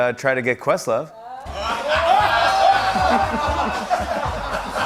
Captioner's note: laughter